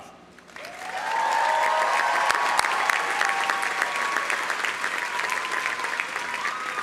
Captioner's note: audience applauding; audience cheering